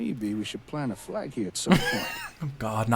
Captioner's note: laughing